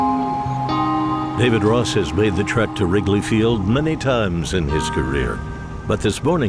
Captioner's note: voiceover